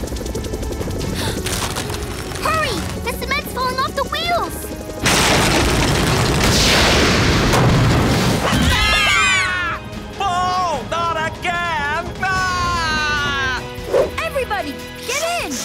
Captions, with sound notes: Hurry, the cement's falling off the wheels! [screaming] Oh not again, ah! Everybody get in!